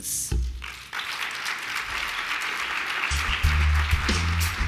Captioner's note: applause